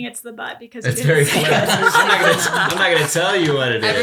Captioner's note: laughs